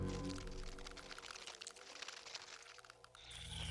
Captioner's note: crackling